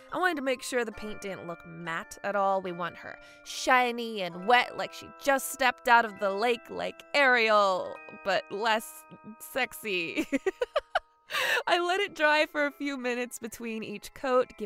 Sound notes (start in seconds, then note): 10.4 laughs